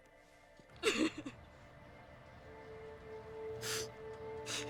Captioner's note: sobbing